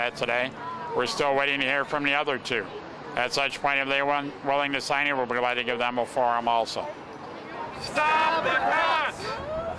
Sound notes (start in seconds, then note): 5.5 chanting